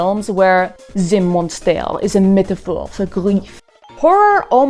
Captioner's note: in a French accent